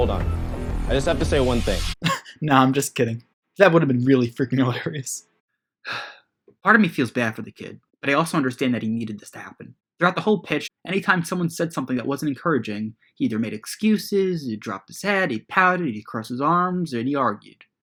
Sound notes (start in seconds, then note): 5.8 sighs